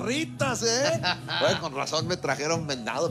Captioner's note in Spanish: Risas